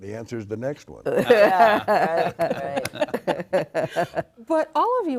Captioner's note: all laughing